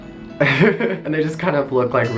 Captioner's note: laughs